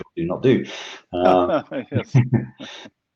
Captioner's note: laughs gently